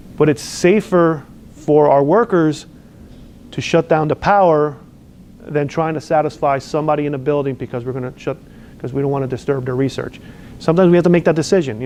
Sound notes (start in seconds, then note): none